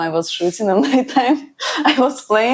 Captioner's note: laughs